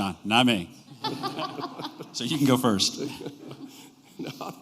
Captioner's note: laughter